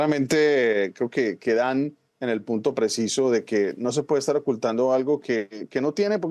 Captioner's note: HABLA EN INGLéS